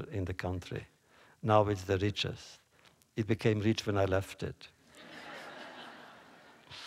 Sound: laughter

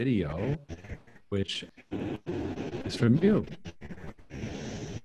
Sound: static hissing

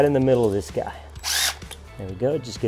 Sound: drill whirring

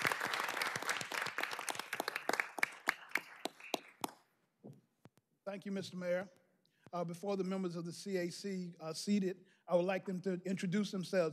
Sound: applause

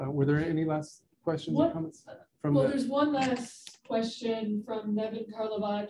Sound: woman's Voice

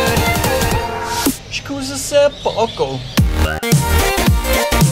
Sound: with Italian southern accent XD

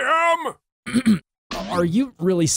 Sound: clears throat

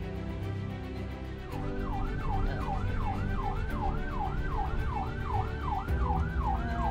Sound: sirens

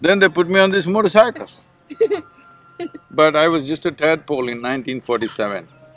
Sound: student laughs

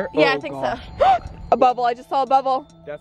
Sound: gasp

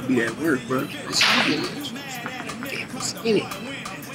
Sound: speaking away from mic

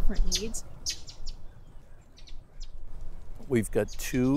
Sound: birds chirping

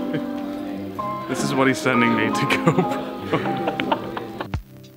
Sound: laughing

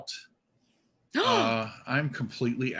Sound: gasps

